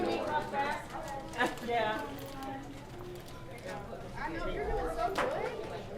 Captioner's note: chatter continuing